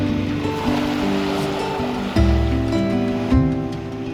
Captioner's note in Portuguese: Ondas do mar